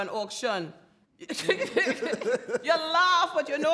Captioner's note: all laugh